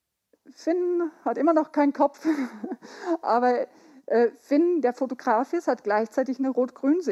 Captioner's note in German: lach